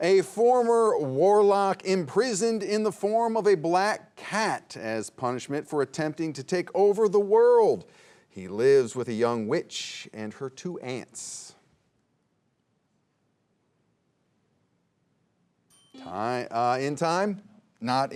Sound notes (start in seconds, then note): 15.7 bell dinging